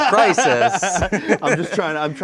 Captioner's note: host laughs